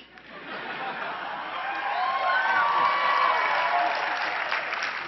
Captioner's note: cheering and clapping